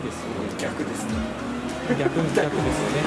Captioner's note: laughs